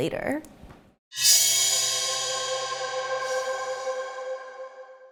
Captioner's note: sharp tone